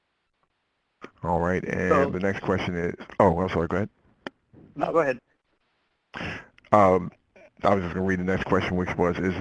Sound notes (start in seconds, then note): 1.4 voiceover; 7.8 voiceover